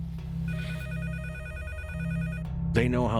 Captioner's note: phone ringing